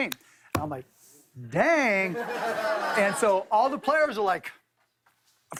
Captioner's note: laughter